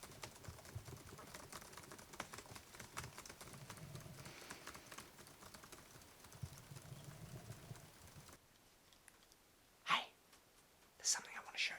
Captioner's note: whispers